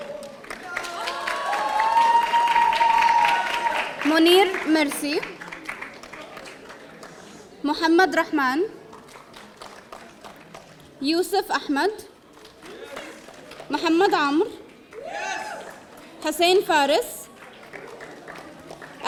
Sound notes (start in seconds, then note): 15.0 audience cheering